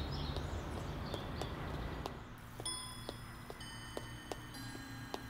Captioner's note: Footsteps